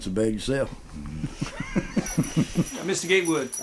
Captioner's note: laughter